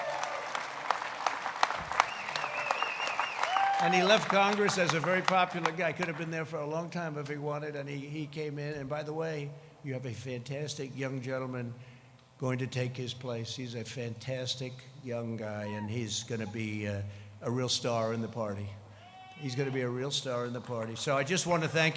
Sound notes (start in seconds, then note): 1.8 crowd cheering; 4.8 applause